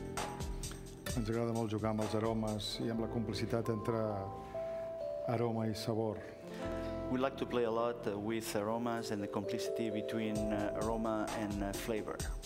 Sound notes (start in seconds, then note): 3.2 speaking catalan